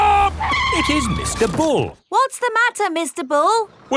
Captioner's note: tires screeching